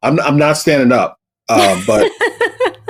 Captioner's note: laughter